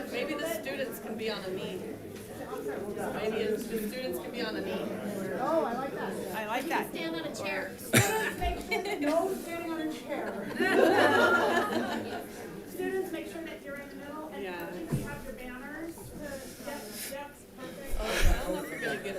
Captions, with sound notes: - Maybe the students can be on their knee. Maybe the students can be on the knee. - Oh, I like that, I like that. - Stand on a chair. - No standing on a chair. (audience laughing) Students, make sure that you're in the middle and that you have your banners. Yes, yes, perfect.